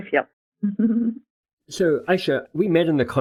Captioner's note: chortles